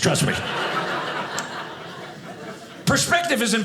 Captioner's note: audience laughing